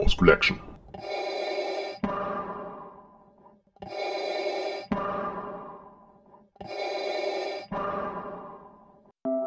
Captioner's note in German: Darth Vader Atemgeräusche